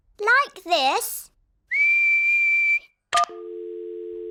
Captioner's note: whistles; dial tone beeping